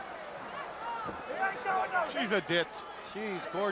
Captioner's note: crowd chatter